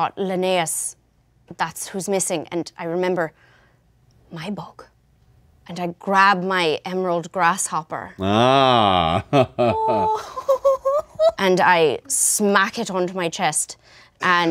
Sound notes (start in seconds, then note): 8.2 laughs; 8.2 player laughs